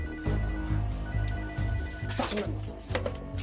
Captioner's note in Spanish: Suena un celular